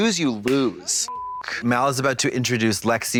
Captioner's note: beep